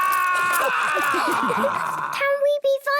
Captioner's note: all laughing